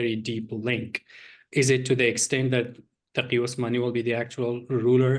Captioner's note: non english speech